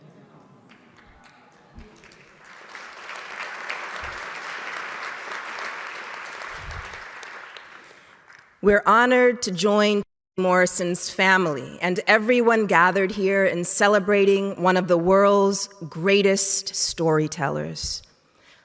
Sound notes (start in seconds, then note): 2.2 audience clapping